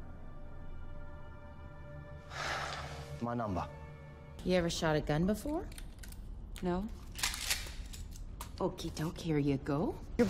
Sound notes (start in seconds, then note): 2.2 exhales